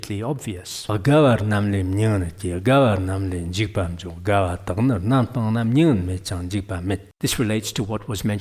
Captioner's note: giving oral transmission in Tibetan